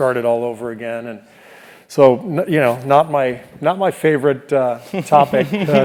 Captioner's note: laugh